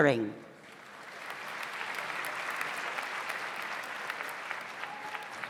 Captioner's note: audience applauds